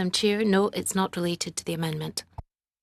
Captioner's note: speaking French